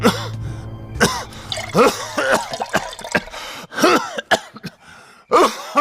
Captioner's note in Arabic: سعال